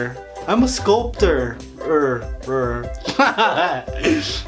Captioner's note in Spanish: Risas